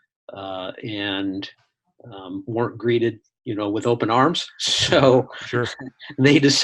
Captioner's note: laughs